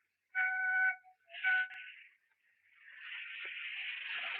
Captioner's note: train whistle blowing